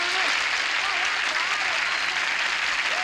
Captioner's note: applause